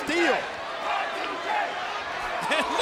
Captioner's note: crowd chanting